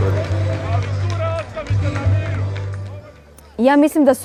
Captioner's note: yelling in the background